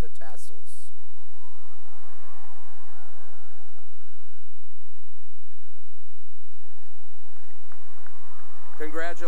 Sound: cheering and applause

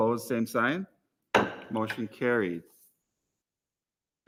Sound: gavel raps

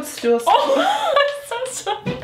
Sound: laughs

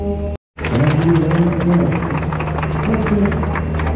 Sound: people clap

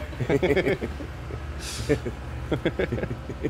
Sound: laughs

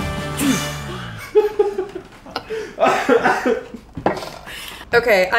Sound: laugh

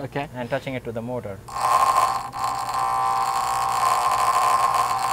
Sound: buzzing

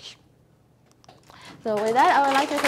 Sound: audience applause

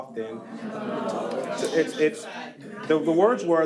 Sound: attendees groans; unmiced voice talking

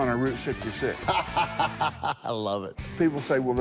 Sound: laughs

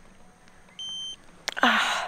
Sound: beeping

